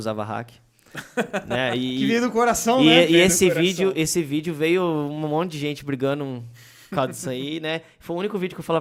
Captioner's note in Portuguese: risos